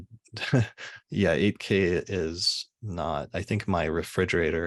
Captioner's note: chuckles